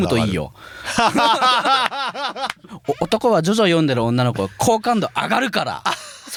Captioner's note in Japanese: 笑い; 笑い